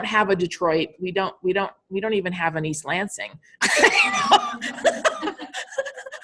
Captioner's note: laughing